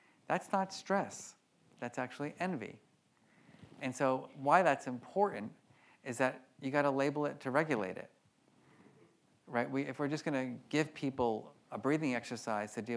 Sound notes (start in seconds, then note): none